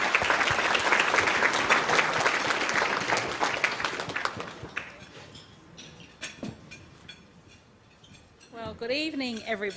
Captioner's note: applause